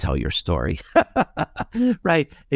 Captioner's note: laughing